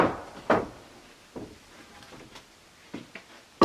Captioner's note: boards clunking